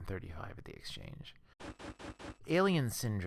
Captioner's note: static